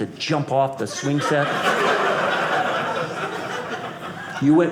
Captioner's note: audience laughing